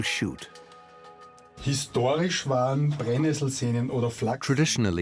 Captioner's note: speaks German